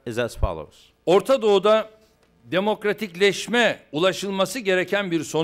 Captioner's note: non-english speech